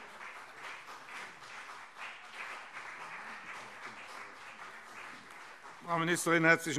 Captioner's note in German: Beifall CDU und BÜNDNIS 90/DIE GRÜNEN